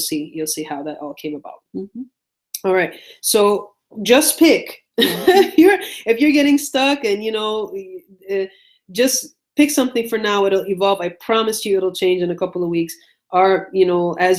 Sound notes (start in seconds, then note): 5.0 laughs